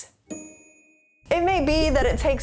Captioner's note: bell dinging